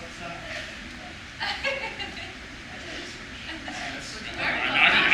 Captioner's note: laughs